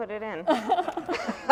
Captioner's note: laughter